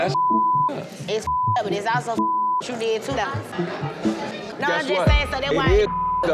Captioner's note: beep